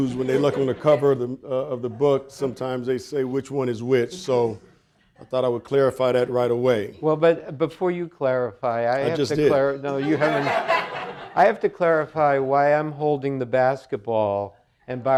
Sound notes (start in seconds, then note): 9.9 audience laughing